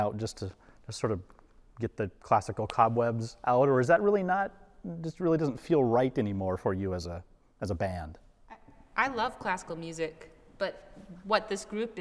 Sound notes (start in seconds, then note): none